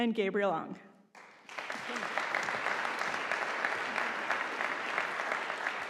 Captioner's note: audience applauding